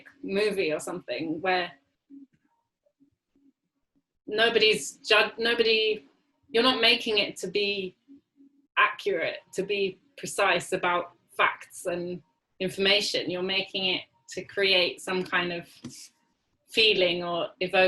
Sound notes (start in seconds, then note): 2.0 silence